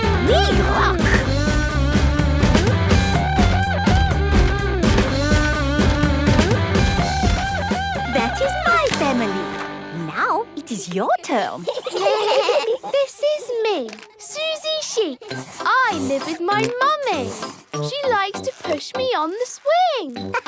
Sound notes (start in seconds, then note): 1.8 upbeat rock music; 11.5 children giggling